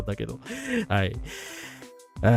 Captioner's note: laughter; sigh